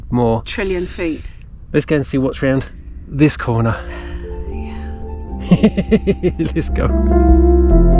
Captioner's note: laughs